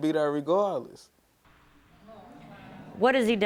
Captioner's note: audience exclaims